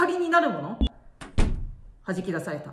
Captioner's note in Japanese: ドアの音